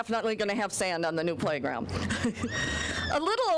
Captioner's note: chuckling